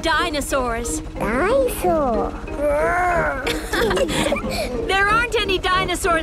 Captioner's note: laughing